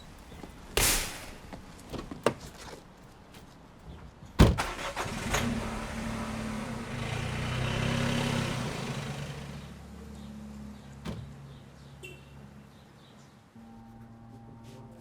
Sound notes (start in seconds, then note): 0.7 gate clanking; 5.9 engine rumbling